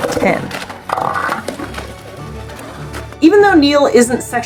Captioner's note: background music; southern elephant seals vocalizing